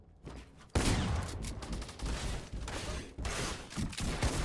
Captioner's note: gunshots